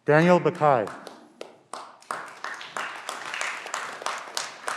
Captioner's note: clapping